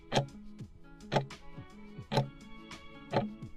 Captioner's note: timer ticking